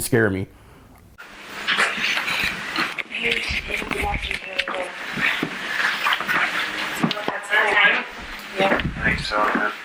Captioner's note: indistinct chatter